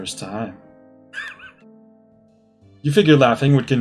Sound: laughs softly

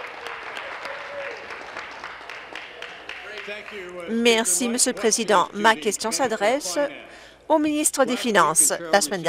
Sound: applause

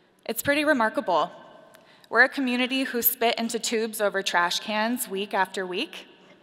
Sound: none

